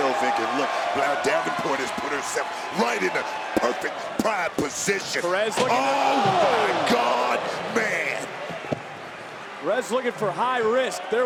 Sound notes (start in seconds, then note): 8.4 Roxanne thudding; 8.4 crowd chattering